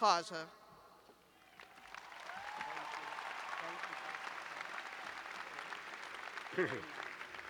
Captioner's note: cheers and applause